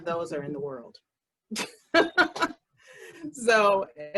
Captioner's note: laughter